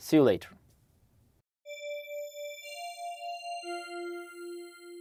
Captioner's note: soft chime